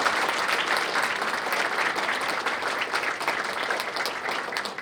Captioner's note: applause